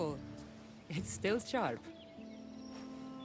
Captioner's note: laughing